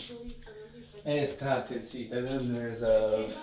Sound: in Italian

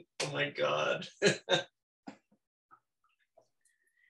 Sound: laughs

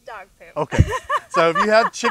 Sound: laughing

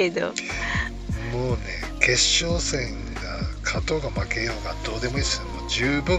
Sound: laughs

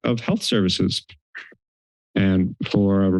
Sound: silence

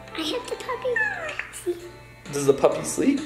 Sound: baby cooing

